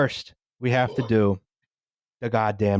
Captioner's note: someone emits a genteel belch